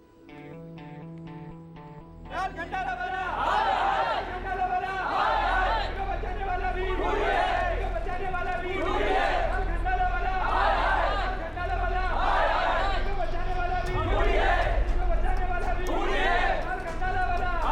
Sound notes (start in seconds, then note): 13.7 thunder rumbling